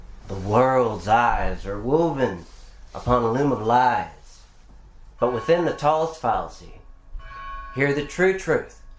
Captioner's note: church bell